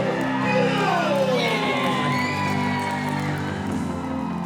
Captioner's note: cheering; inspiring music begins